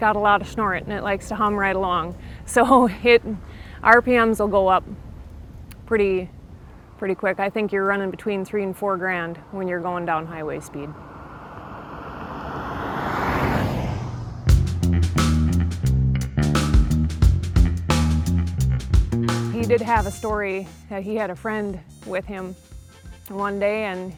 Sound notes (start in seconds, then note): 12.0 car whirring; 14.8 upbeat music